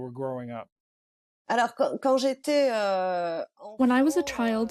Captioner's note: through translator